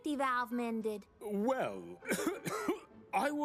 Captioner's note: coughs